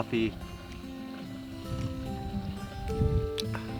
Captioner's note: slurping